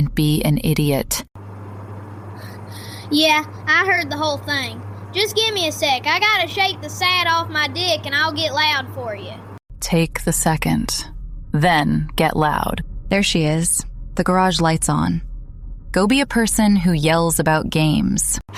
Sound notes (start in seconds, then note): 2.3 breath